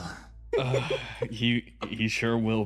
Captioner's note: sigh